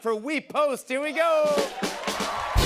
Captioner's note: cheers and applause